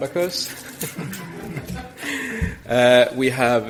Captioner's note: audience laughs